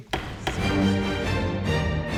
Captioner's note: gavel banging; intense music